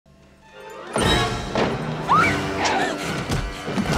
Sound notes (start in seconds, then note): 2.0 shrieking